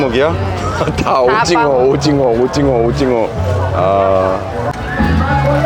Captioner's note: laughing